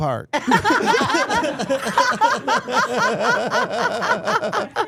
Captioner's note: everyone laughing